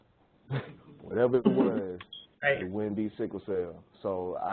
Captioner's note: chuckles